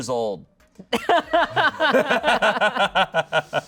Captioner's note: audience laughing